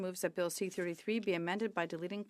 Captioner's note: speaking French